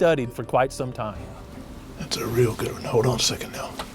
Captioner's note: whispering